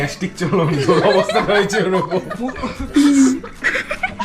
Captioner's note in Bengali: সশব্দ হাসি